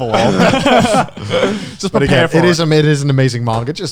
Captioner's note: laughs